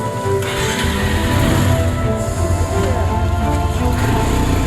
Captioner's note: engine starts